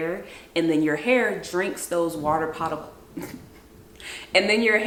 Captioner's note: laughs